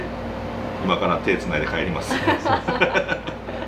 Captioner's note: laughs